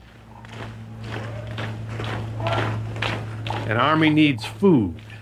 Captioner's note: footsteps clacking